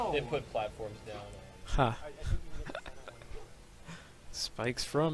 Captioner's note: chuckles